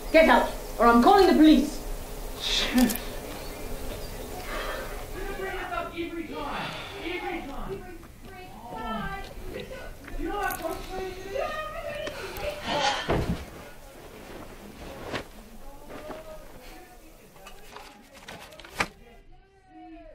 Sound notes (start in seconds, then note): 10.8 incoherent shouts; 12.6 breathes out loudly